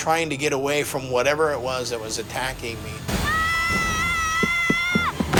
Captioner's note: Timmy screaming